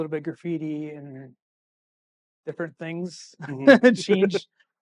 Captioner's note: laughing